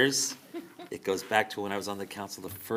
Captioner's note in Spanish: risas